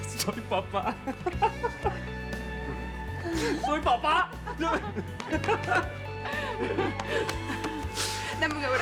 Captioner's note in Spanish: Risa nerviosa; Sigue riendo; Palmadas